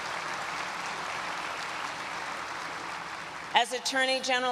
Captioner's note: applause